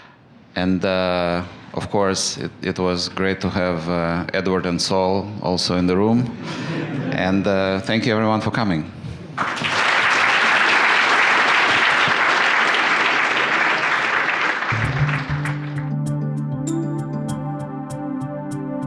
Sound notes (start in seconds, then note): 9.3 applause; 14.7 light music